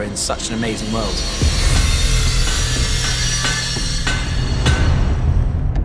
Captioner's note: metal clanging